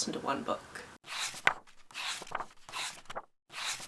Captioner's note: pages turning